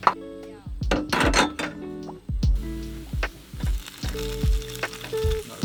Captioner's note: pan clatters; ingredients sizzle